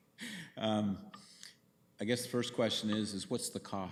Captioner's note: chuckles